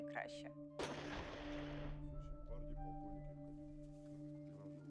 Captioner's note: speaking Russian